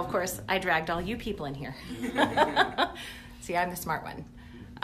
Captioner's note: laughs